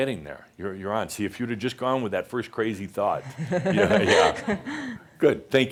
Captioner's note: she laughs